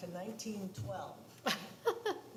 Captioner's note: laughs